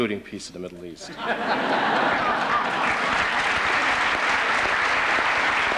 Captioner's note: laughter